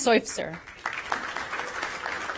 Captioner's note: applause